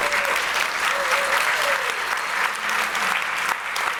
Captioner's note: applause